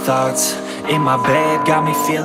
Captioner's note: timer beep